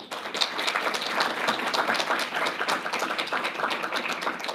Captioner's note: audience applauding